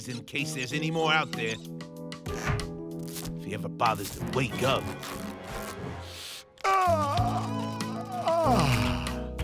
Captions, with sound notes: there's any more out there. If he ever bothers to wake up. [yawning]